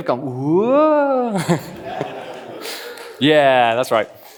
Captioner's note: laughs